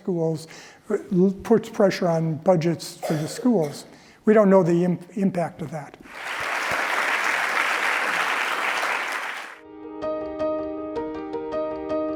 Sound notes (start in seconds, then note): 6.0 applause